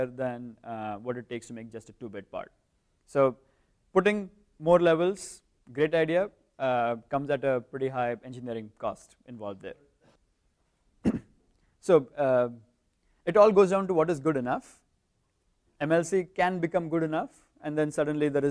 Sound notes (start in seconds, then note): 11.0 cough